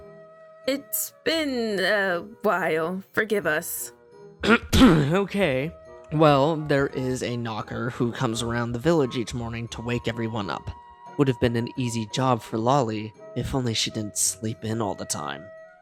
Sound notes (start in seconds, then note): 4.4 clears his throat